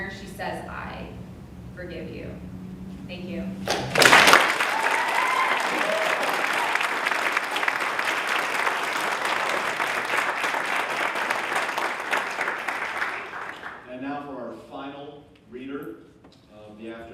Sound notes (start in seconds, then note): 3.6 applause